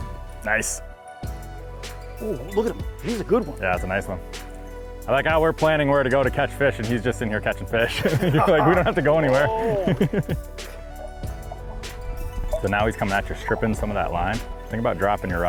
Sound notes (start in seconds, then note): 7.8 group laughs